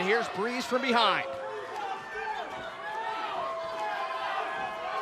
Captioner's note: crowd chatter